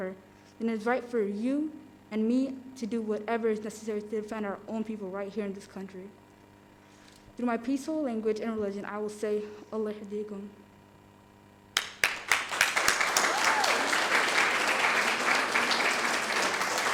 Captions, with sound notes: then it is right for you and me to do whatever's necessary to defend our own people right here in this country." Through my peaceful language and religion, I will say, (speaking in foreign language) (audience applauding) (cheering)